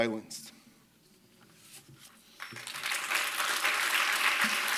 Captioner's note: applause